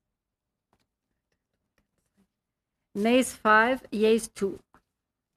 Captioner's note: speaking french